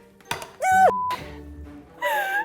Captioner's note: metal hits pan; scream; laughs